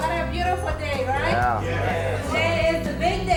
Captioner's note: crowd affirms